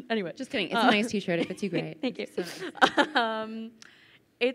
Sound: chuckles

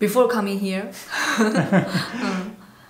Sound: laughter

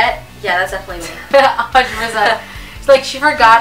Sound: laughs

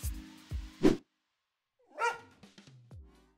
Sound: logo whooshing; dog barks

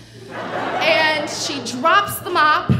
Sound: audience laughing

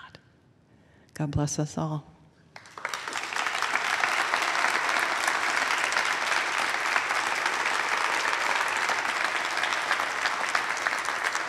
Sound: applause

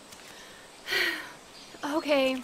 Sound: sigh

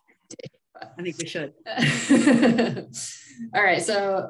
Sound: giggling

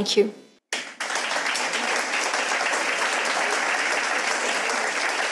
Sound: audience applauds

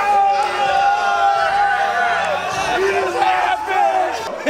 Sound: exclaiming

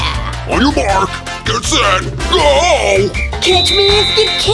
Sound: whistle

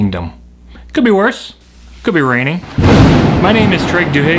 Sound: thunder strike

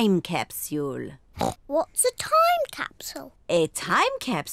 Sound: oinks

